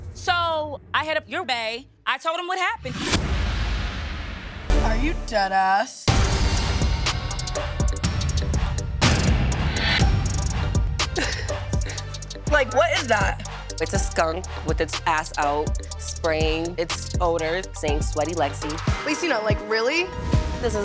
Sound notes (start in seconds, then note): 6.2 rhythmic music; 11.1 laughs